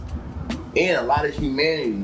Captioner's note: birds Chirping